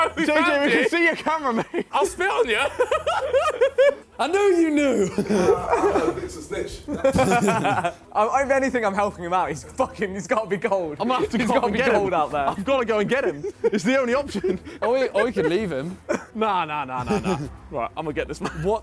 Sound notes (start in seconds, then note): 7.4 laughs